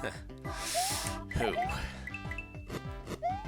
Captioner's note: breathing